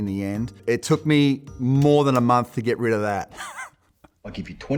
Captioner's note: chuckles